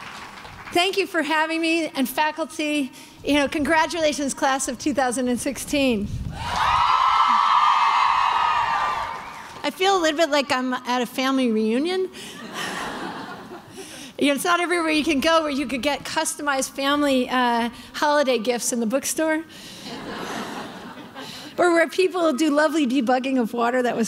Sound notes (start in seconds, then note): 6.4 cheering; 12.3 crowd laughing; 19.8 crowd laughing